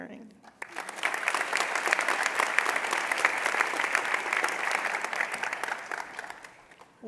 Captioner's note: applause